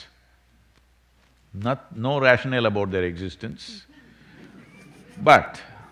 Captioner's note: few laugh